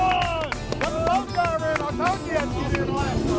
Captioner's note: cheering